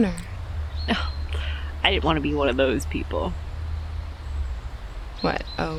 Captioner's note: scoffs